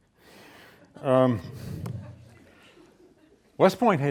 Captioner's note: laughs; students laughing